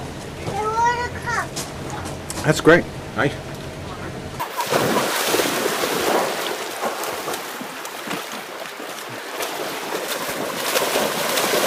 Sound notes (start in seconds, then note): 4.4 water splashing